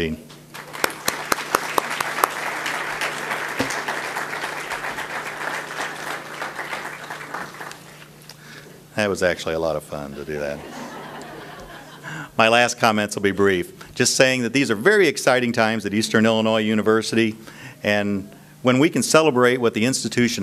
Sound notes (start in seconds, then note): 0.5 audience applause; 9.9 audience laughs